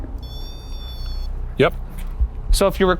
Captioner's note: REM-pod whines